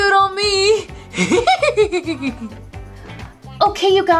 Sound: Scooby laughs

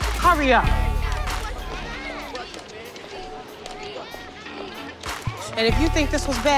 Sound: students chattering in background

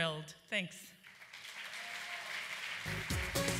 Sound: applause

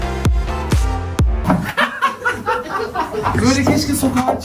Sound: laughter

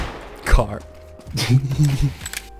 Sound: laugh

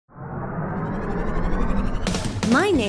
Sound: engine whirring

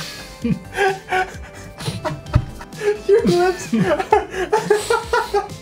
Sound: both struggling to hold in laughter

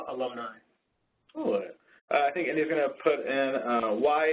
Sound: voiceover

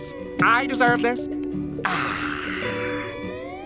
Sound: sighing

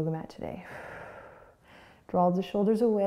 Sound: exhaling

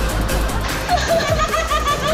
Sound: laughing

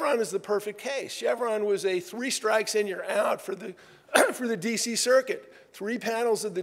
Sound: cough

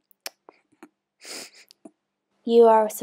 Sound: eating sounds

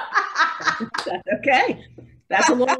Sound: laughing

